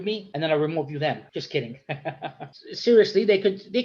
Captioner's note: laughs